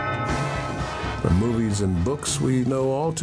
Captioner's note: bell chimes